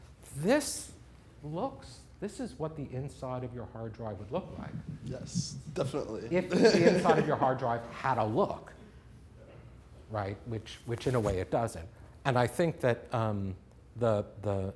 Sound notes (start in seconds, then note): 4.6 laughs